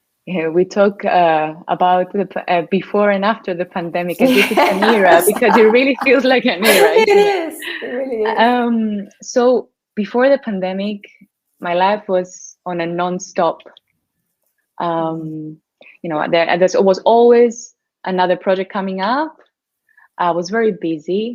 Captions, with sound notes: Yes, we talk about that before and after the pandemic and this is an era because it really feels like an era... (laughs) So, before the pandemic my life was on a non-stop, there was always another project coming up, I was very busy,